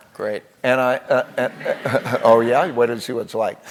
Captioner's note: laugh